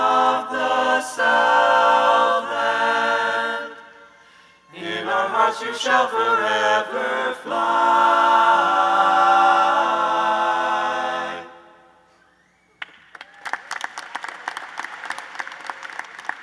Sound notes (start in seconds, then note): 12.7 applause